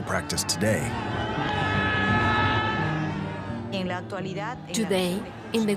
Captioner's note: crowd shouting